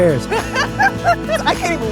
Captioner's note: laughs